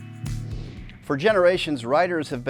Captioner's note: gentle upbeat music; graphic whooshes